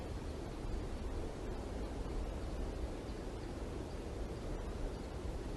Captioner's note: air conditioning